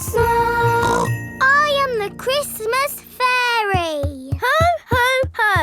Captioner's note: snorts